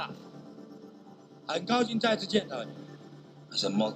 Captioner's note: man speaks foreign language